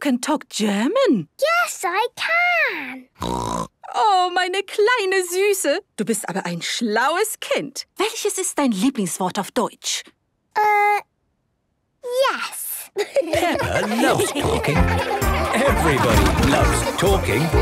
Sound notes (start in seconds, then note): 2.7 speaking German; 3.2 snorting; 12.9 laughter